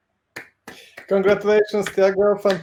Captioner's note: clapping